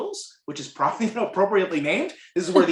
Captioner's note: laughter